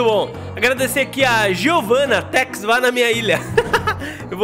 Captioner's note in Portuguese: risos